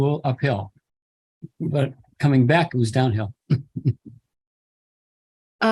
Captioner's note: chuckle